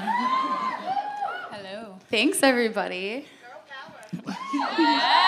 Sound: cheers and applause

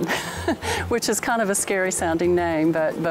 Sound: laughs

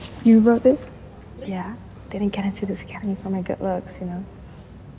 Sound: none

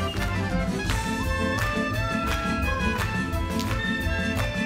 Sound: dancers clap

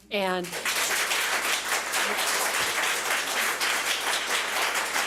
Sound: public applauding

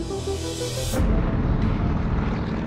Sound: engine roaring

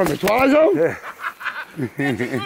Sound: laughter

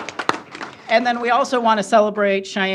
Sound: applause

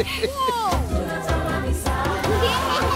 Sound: laughing

